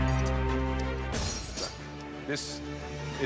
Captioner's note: dramatic music; utensils clatter